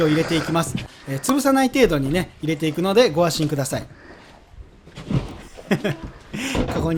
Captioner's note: haha